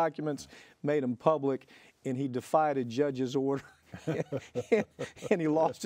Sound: laughs

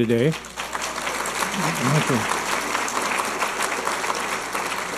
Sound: audience applauding

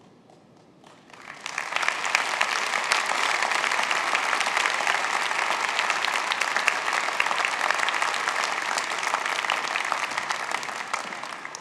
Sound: applause

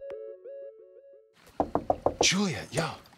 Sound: knocks on door

